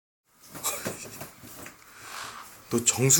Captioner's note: laugh